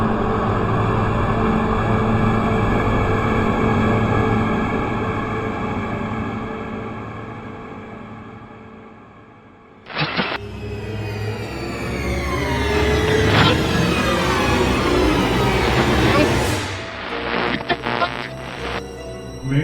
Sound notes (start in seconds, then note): 9.8 static crackling; 10.4 ominous music; 17.1 solemn music